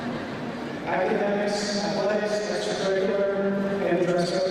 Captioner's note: none